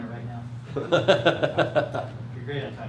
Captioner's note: laughs